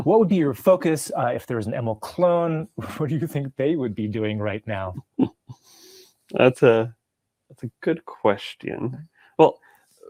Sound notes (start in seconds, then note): 2.7 chuckling; 5.0 laughing